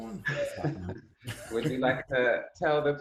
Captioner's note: laughter